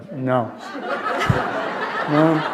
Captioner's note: laughter